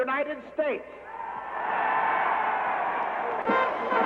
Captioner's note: crowd cheering